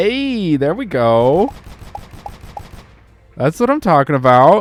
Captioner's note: gunshots